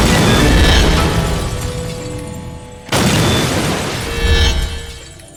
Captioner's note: glass smashing